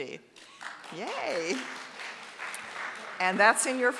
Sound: audience applauding

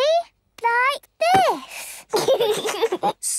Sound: giggles

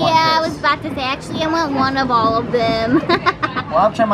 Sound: laughing

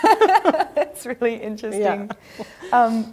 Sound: laughs

